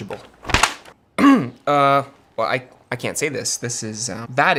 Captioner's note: clears throat